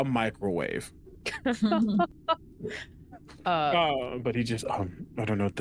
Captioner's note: laughter